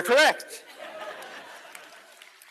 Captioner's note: laughter